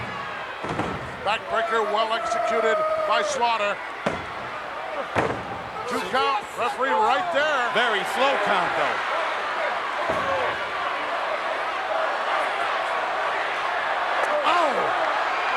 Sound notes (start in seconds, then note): 3.9 hand pounding; 9.0 crowd yelling